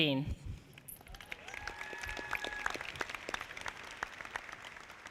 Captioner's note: audience applauding